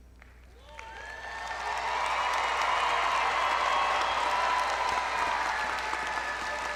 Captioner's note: audience clapping; audience cheering